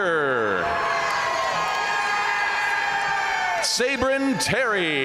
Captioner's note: audience cheering and applauding